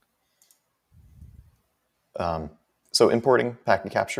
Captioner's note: mouse clicking